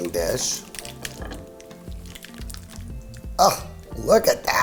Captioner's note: pasta cluttering